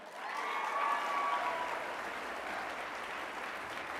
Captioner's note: applause